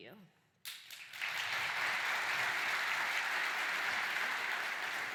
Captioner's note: applause